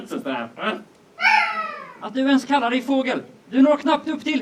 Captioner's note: seagull caws